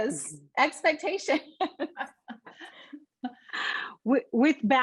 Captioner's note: laughs